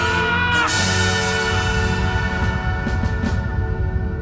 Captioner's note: kirk's cry continues to echo